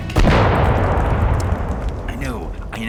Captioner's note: explosion